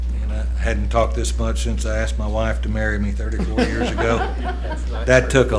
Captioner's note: laughter